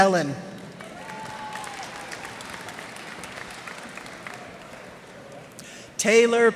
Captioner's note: cheers and applause